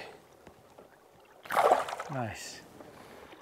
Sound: splash

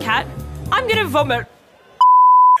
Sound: beep!

